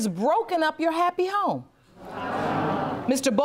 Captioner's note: audience murmuring